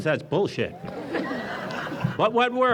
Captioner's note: audience chuckles